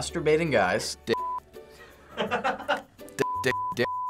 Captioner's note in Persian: خندیدن